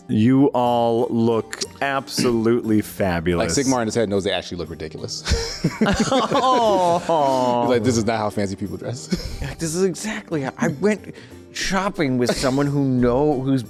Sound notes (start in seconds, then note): 5.3 laughing